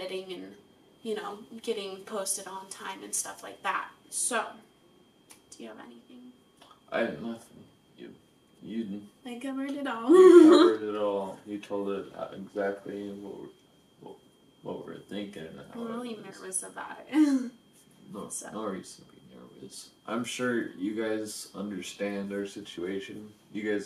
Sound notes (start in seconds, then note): 10.1 laughs